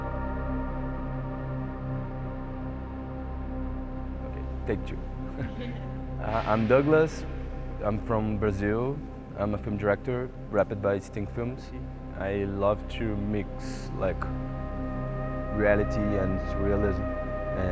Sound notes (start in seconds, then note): 5.3 laughing